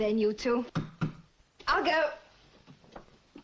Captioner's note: knock at door